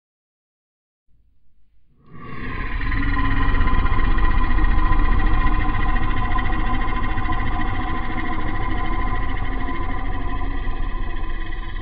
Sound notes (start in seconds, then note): 0.0 long beastly growl